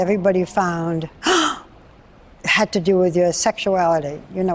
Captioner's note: gasps